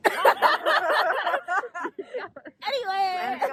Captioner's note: laughter